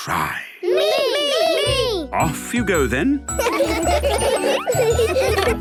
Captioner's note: laughter